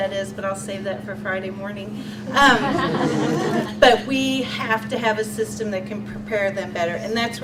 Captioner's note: audience laughs